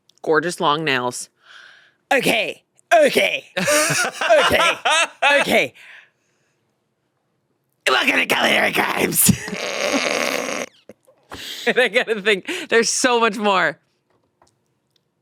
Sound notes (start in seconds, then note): 3.6 laughs; 9.3 stifles laughter